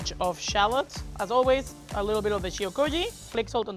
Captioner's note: speaks Spanish